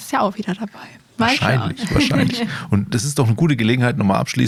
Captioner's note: laughter